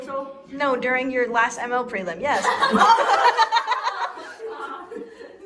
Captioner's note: laughter